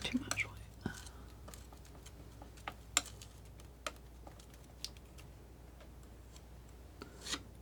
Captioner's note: scratching